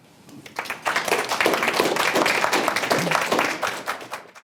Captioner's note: applause